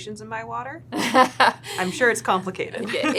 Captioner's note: laughing